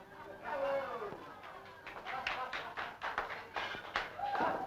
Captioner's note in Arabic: الهتاف والتصفيق